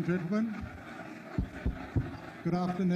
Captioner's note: audience conversing